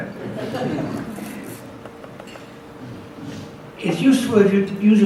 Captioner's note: audience laughs